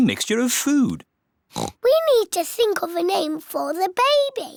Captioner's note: oinks